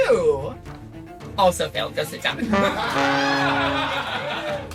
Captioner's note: laughs